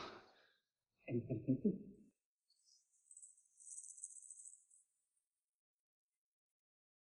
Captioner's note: giggles